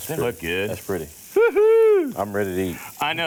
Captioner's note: laughs